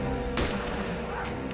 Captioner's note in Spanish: Disparos